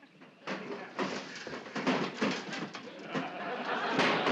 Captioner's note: metal clanging; audience laughing